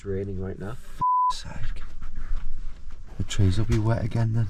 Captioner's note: beeps